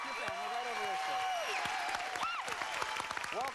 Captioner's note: crowd cheers; screams